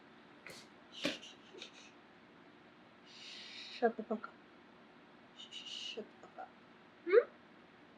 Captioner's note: shushes